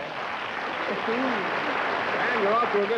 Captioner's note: applause